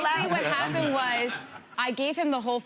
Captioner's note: audience laughs